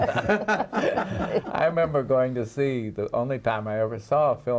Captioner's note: laughing